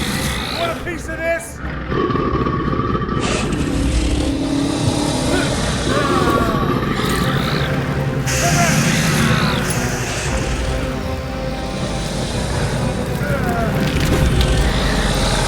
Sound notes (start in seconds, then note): 1.6 creature growling; 13.2 Bruce moaning; 15.3 creature growling